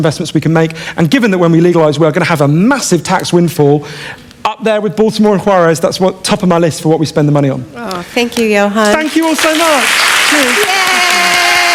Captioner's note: applause